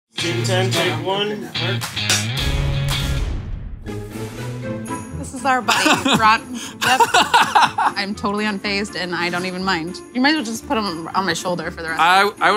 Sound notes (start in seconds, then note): 1.8 upbeat music; 6.6 laughing